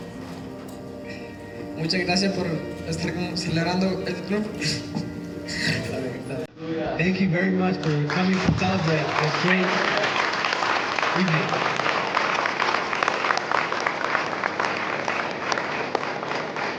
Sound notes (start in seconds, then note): 11.4 audience applauding